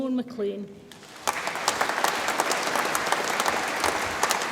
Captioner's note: audience applauds